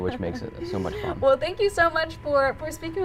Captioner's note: chuckling